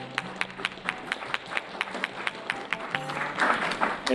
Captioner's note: applause